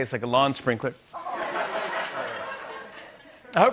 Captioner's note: laughter